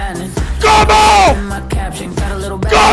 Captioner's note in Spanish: grita